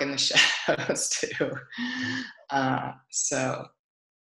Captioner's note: laughs